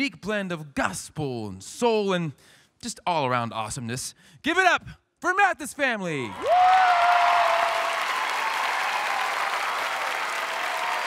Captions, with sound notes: - Bringing their unique blend of gospel, and soul, and just all-around awesomeness, give it up for Mathis family. (audience cheering)